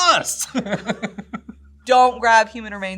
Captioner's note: laughs